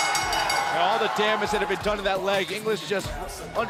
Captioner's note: bell